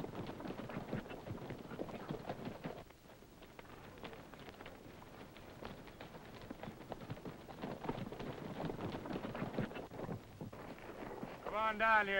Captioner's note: galloping